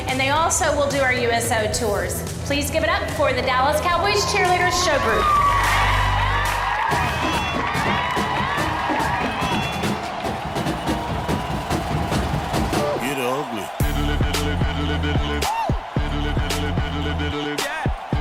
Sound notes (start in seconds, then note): 5.8 audience applauding; 7.4 drumming music